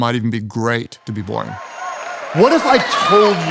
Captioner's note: audience applauding and cheering